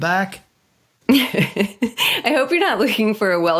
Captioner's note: laughing